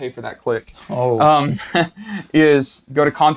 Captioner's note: chuckles